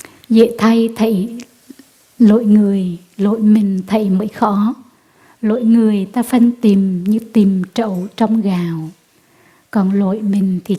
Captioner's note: speaking vietnamese